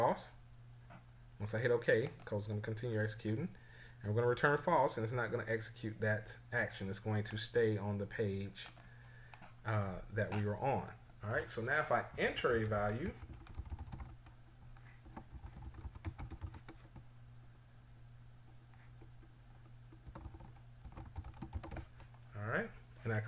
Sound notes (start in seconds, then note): 15.7 typing sounds